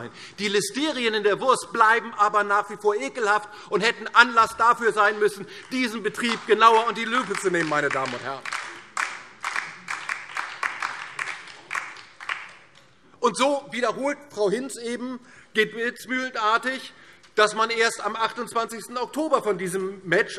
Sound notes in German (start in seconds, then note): 8.9 Beifall DIE LINKE und vereinzelt SPD